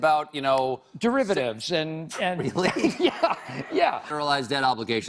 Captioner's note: audience laughs